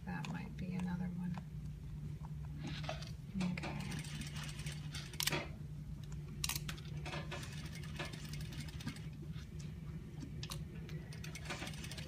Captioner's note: sewing noise